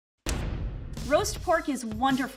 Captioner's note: pounding